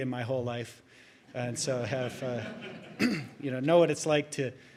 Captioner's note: audience chuckling; clears throat